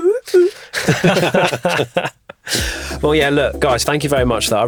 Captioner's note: all laugh